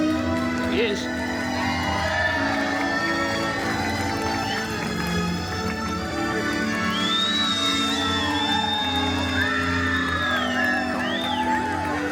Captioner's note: guests cheering, applauding and whistling